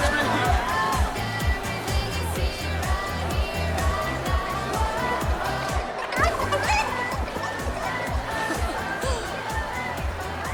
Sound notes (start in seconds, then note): 5.8 clucking chicken; 8.3 laughs